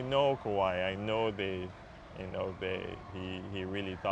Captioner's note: cheers and Applause